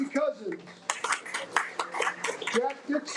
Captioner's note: audience applauding